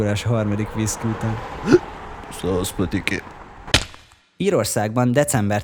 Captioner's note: hiccups